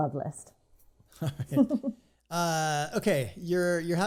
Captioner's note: laughing